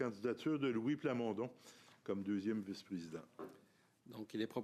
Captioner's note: speaking in French